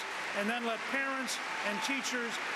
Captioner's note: applause